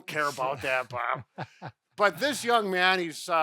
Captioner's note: laughs